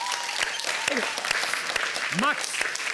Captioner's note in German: Applaus